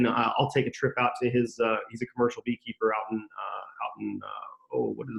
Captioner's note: speaking faintly